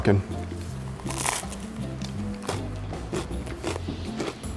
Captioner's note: pizza crunches